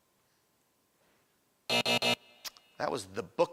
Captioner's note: buzzing